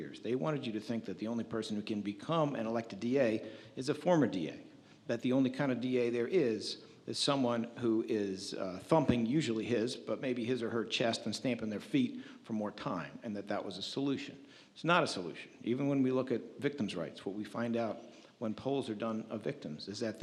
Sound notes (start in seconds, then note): none